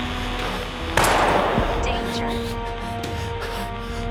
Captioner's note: automated Voice